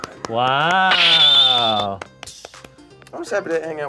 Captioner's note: claps